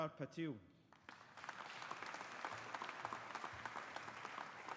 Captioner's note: audience applauding